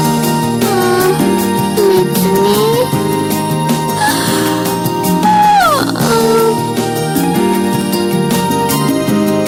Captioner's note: yawning